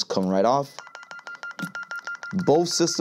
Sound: beeping

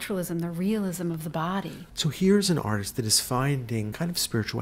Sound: voiceover

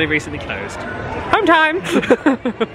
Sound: laughs

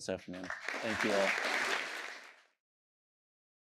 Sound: applause

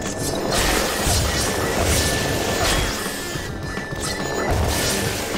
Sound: Manhack alarm blaring; metal clanging; metal smashing

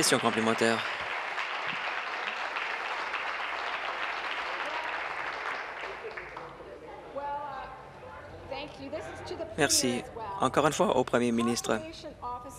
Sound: applause

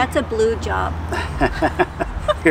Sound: laughing

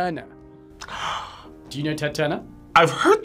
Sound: gasps

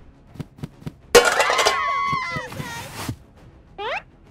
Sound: screaming

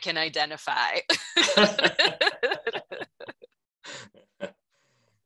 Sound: laughing

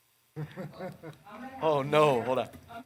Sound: laughing

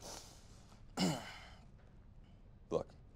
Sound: Clauneck coughs

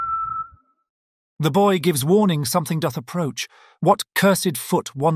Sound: The Page whistles

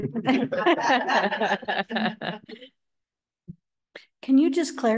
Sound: laughter

